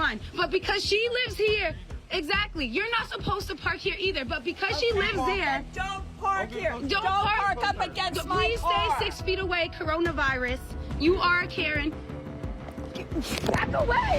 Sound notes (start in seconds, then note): 12.6 grunting